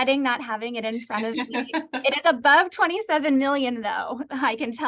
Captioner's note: laughter